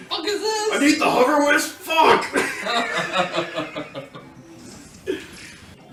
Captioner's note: laugh